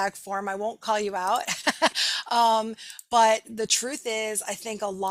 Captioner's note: laughing